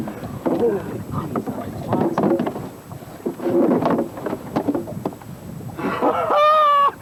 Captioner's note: water sounds